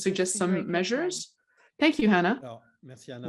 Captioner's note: speaks French